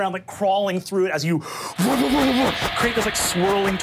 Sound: air whooshing

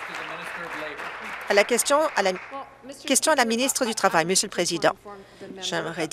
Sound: applause

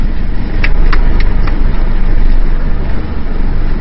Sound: clapping

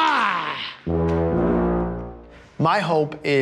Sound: horn

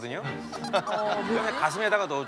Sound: laughing

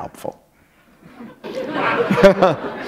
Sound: laughter

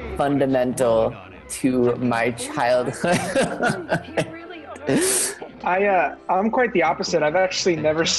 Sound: laughs

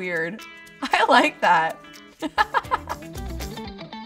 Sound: laughs; upbeat music

